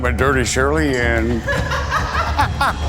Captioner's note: laughter